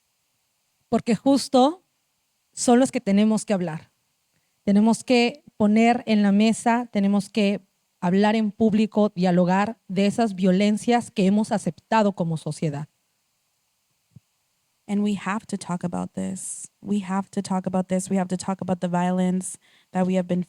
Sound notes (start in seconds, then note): 3.3 speaking Zapotec language